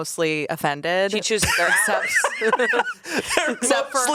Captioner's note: everyone laughs